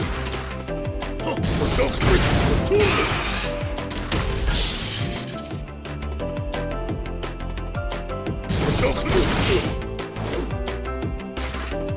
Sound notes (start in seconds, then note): 3.7 power crash